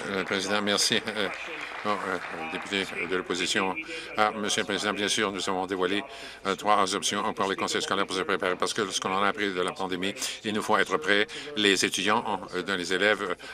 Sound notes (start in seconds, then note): 4.6 some Applause